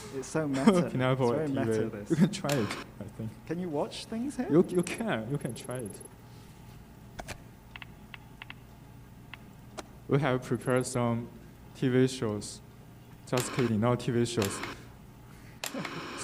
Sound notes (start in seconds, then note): 2.4 static buzzing